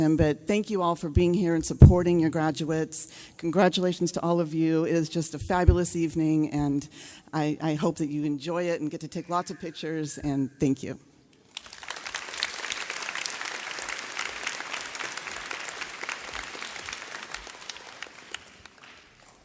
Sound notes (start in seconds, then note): 11.4 audience clapping